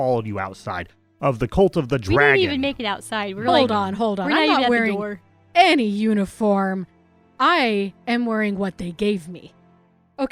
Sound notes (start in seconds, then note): none